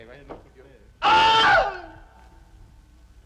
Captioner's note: man screams